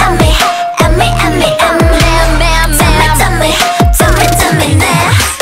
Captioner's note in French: Squeak-Squeak-Squeak